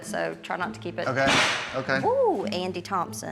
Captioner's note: dishes clank